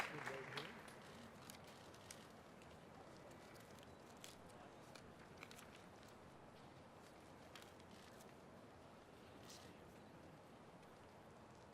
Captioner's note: cheers and applause